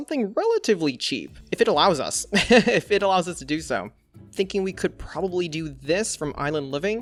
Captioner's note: laughs